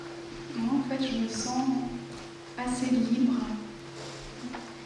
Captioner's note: french